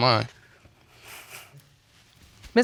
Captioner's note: sniffling